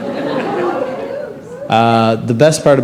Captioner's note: laughter